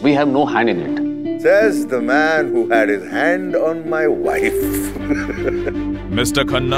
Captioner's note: Laughs